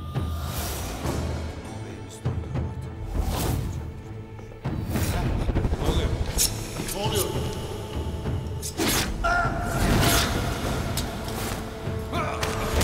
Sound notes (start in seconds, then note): 8.6 Kılıç sesi; 8.7 Kılıç sesleri